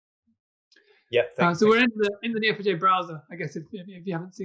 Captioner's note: murmurs